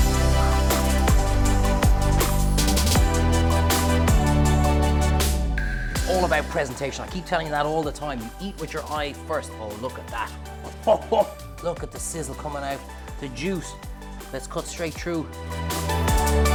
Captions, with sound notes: All about presentation. I keep telling you that all the time. You eat with your eye first of all. Look at that. (laughs) Look at the sizzle coming out, the juice. Let's cut straight through.